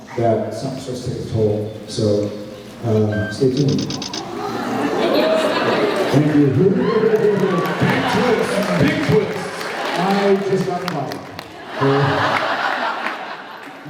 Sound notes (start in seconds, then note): 7.0 applauds; 11.6 laughs